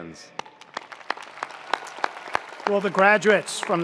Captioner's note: attendees applauding; attendees cheering